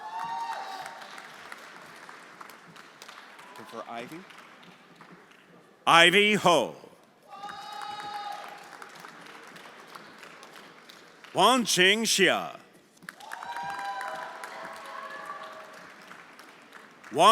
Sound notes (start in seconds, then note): 0.0 everyone applauding; 7.3 everyone applauding; 7.8 friends cheering; 13.0 everyone applauding